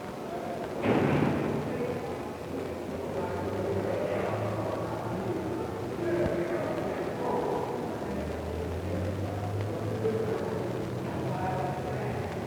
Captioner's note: indiscriminate chatter